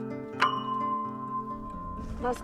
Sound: ding

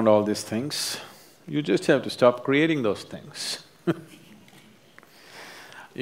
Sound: laughs

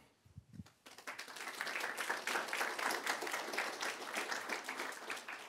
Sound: applause

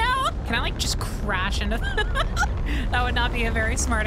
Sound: laughter

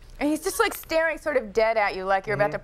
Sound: none

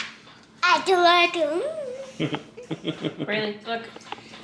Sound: chattering

